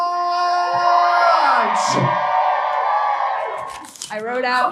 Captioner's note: audience cheering